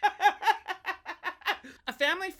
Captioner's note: laughs